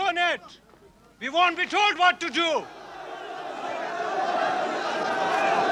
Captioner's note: shouting